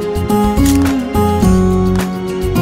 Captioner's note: Camera click